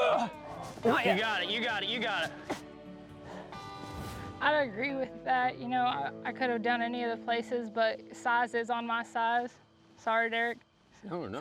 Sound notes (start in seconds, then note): 0.0 grunting